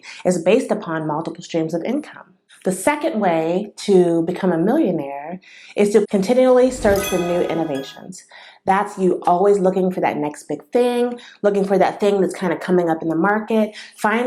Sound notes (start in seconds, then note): 6.6 sound effect